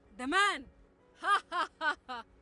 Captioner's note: laughs bitterly